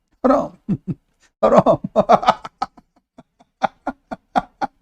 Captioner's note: Ketawa